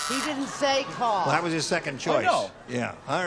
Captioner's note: buzzer